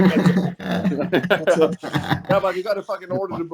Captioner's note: laughs